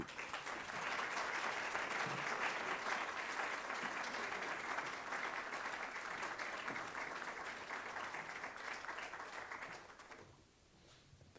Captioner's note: applause